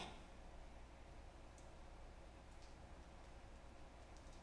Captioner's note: radio static buzzes